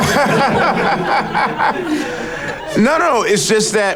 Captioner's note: people laughing